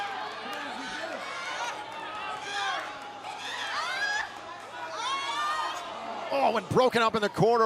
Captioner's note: crowd cheering